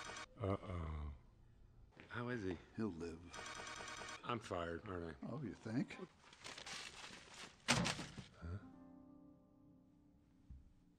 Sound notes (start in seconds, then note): 7.6 thud